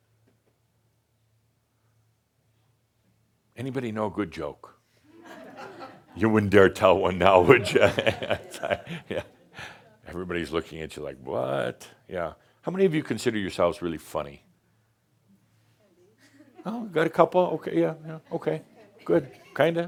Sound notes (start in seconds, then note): 5.3 a few chuckles; 7.4 Adamus chuckles